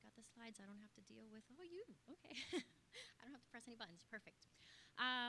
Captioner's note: laugh